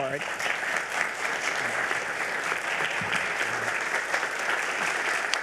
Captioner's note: audience applauds